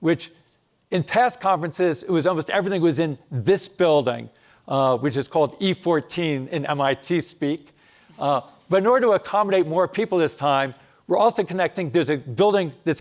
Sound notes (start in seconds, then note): none